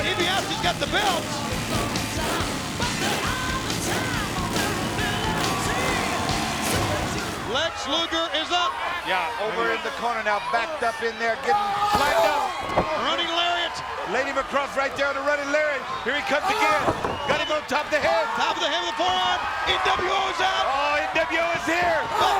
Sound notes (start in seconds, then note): 2.0 motorbike revving; 2.0 upbeat music